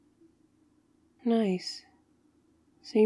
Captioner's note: sarcastic